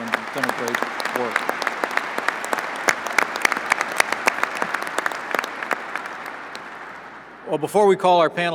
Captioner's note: applause